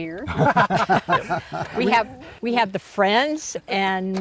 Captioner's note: laughter